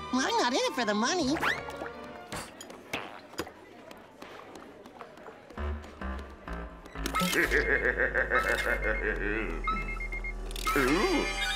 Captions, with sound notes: I'm not in it for the money. [laughing menacingly] Ooh.